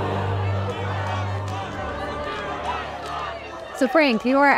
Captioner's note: crowd heckling